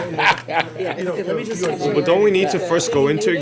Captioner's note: laughter